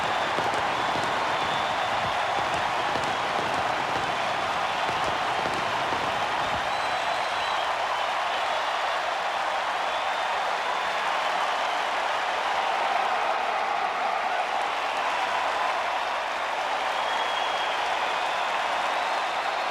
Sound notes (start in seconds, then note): 4.8 applause; 5.5 cheering and Applause; 6.6 fireworks exploding; 10.2 cheering and Applause